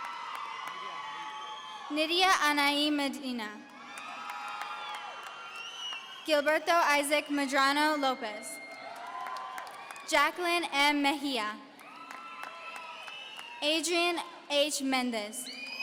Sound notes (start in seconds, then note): 3.7 audience cheering